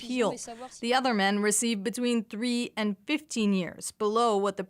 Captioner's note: speaking french